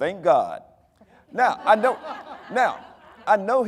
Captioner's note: audience laughing